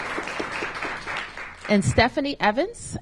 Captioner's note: applause